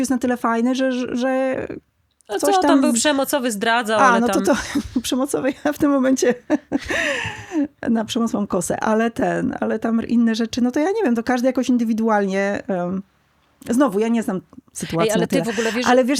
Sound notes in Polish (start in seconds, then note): 6.2 śmiech; 6.8 wciągnięcie powietrza